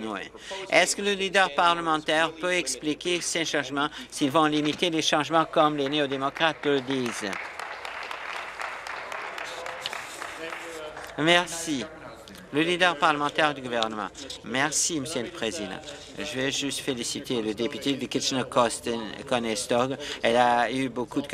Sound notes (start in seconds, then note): 10.7 some applause